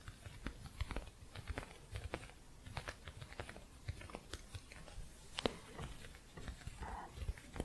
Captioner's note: gentle scratching